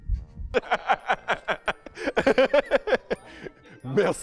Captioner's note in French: Rires